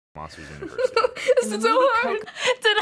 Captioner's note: anxious laughter